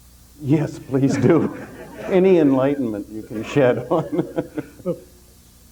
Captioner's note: chuckling